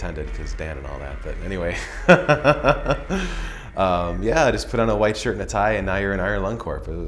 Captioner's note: laughs